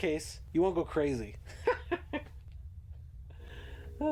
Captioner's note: laughs